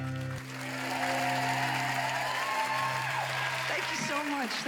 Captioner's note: song ends; applauding